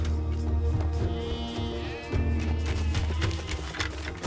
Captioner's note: sheep bleating; suspenseful music playing